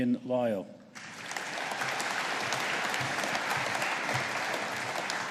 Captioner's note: audience applauding